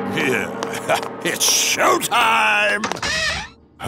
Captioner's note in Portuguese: Risos